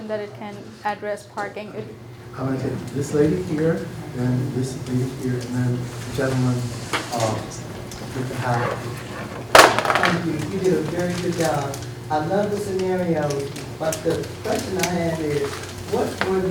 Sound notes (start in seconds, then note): 9.3 loud crash